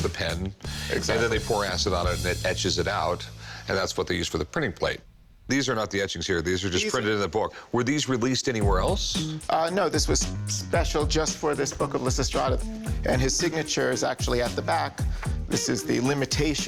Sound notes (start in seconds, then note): none